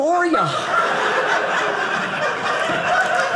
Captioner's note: audience laughing